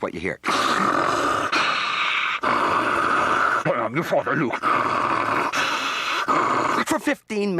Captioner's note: distorted breathing